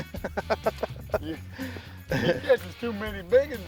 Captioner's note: laughs